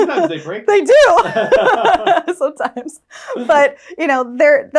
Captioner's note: laughs